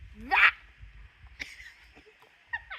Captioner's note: laughing